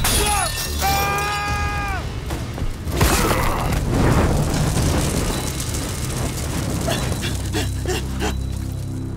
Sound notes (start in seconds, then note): 0.8 screaming; 6.4 panting